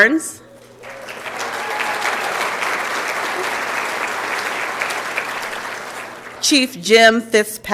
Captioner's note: applause and Cheering